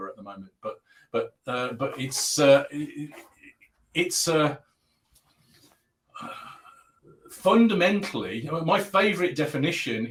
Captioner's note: abbreviated speech